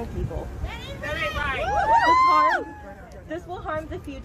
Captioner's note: cheers